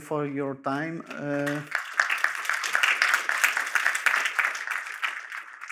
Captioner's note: applause